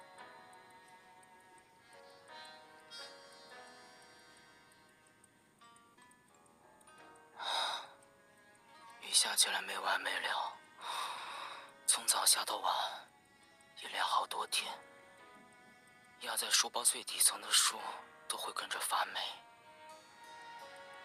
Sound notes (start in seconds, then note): 7.4 sigh